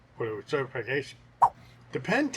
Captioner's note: swipe sound